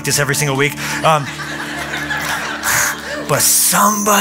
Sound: laughter

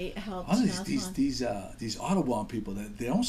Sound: voiceover

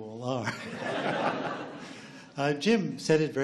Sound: laughs

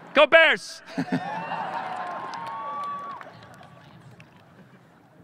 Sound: audience laughing

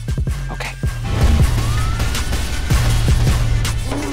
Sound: siren wails; moaning

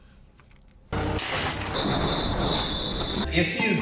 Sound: metal crunching; metal clanging

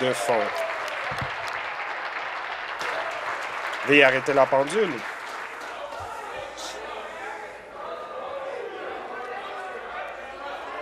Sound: applause

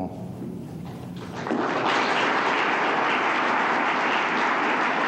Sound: applause

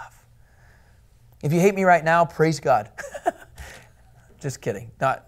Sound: laughter

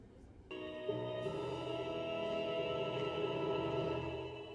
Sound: movie ending noises

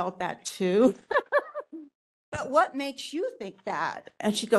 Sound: laughing

